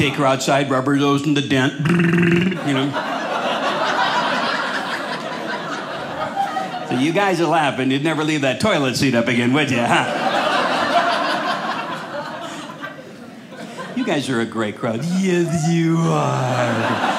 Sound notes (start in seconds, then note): 1.8 audience laughing; 9.7 audience laughing